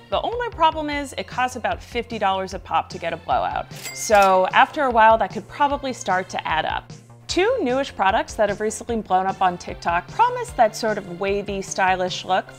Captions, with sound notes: The only problem is it costs about $50 a pop to get a blowout. (register chimes) So after a while, that could probably start to add up. Two new-ish products that have recently blown up on TikTok promise that sort of wavy, stylish look